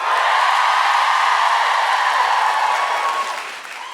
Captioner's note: cheering